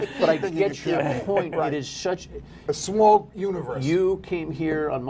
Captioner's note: laughter